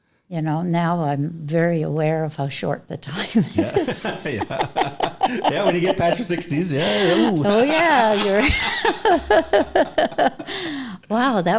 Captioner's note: laughter